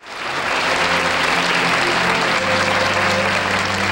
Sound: audience applauds

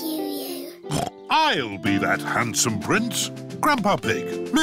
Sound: snorts

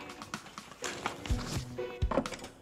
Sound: none

